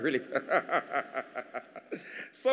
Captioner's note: laughs